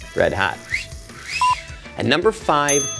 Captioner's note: assistant whistles